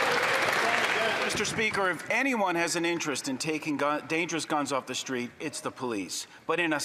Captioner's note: some Applause